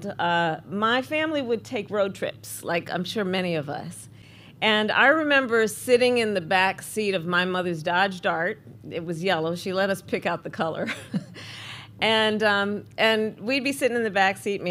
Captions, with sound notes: my family would take road trips, like I'm sure many of us. And I remember sitting in the backseat of my mother's Dodge Dart. It was yellow; she let us pick out the color. (Laughs.) And we'd be sitting in the backseat,